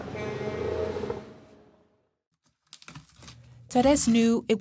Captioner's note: car horn beeps